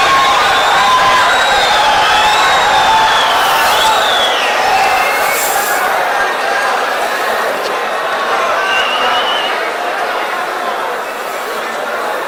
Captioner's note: wild applause and cheering for 22 seconds